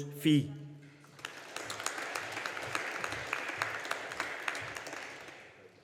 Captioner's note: audience applauding